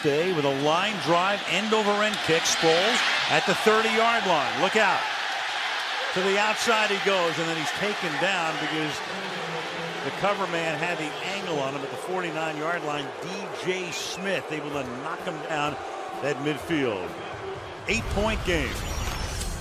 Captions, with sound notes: Masthay with a line drive, end-over-end kick. Sproles at the 30-yard line. Look out. To the outside he goes. And then he's taken down because the cover man had the angle on him at the 49-yard line. DJ Smith able to knock him down at midfield. [booing] 8-point game.